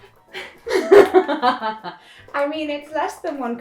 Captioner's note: laughter